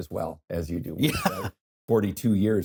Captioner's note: laughs